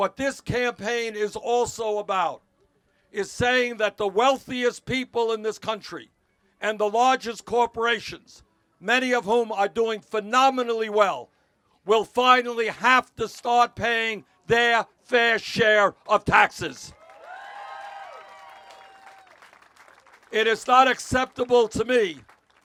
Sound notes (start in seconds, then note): 16.9 cheers